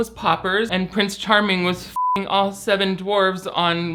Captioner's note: beep